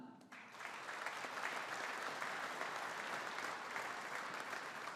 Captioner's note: audience applauding